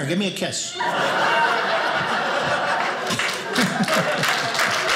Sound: audience laughing; audience applauding

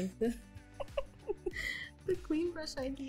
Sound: both laughing

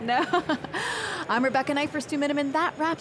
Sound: laughter

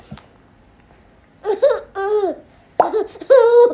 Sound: bursting into laughter again

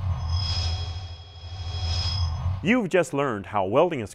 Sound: sound Effects

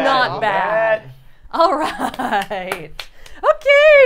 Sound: appluading

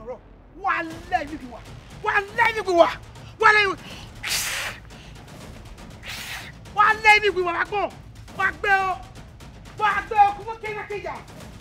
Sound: cursing

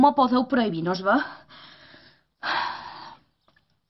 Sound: breathes

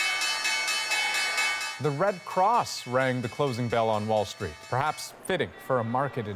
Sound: bell ringing

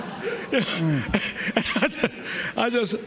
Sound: laughter

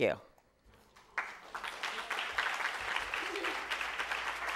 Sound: applause

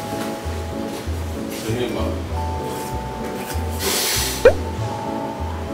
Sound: slurp~

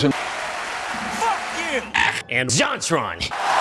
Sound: applause; muffled FUCK YOU; muffled GAYYYYY; louder applause

